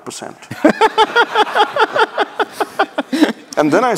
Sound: laughing

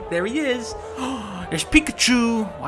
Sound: gasps

